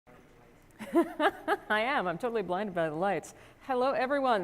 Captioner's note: laugh